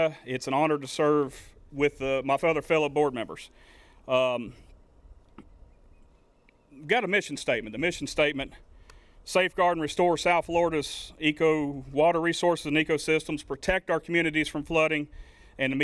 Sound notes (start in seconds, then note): none